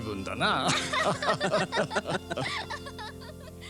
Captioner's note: laughter